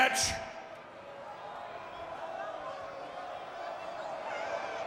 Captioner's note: audience booing